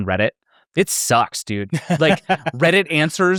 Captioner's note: laughs